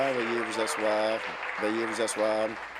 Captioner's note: applause